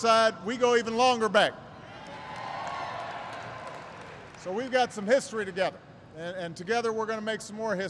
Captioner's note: applause